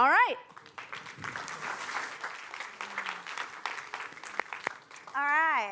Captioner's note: applause